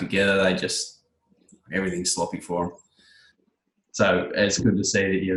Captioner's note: both laugh